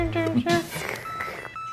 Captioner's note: slurp; vocalizing